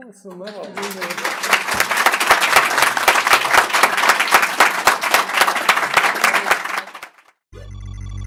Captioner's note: applause